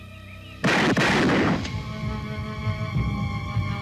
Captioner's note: gunshots